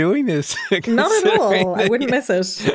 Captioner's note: laughs